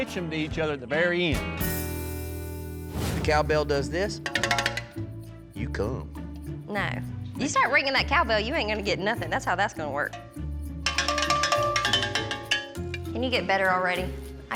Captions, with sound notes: TO EACH OTHER AT THE VERY END. COW BELL DOES THIS... [RINGING] YOU COME. NO. YOU START RINGING THAT COW BELL YOU AIN'T GONNA GET NOTHING. THAT'S HOW THAT'S GONNA WORK. [RINGING] CAN YOU GET BETTER ALREADY?